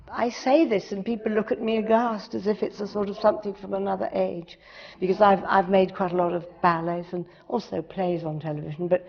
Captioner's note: none